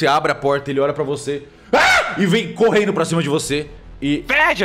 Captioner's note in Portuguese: grito